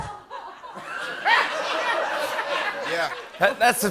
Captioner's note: laughter